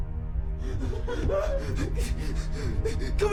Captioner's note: hyperventilating